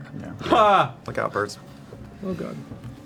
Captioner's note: nervous exclamation